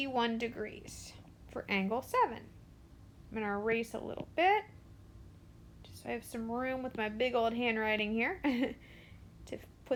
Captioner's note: chuckles